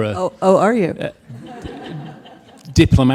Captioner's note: audience laughs